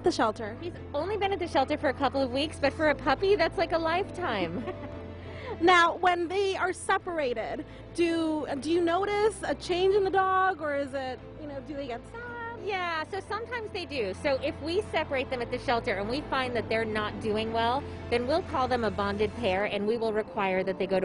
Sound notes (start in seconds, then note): 4.5 interviewer laughs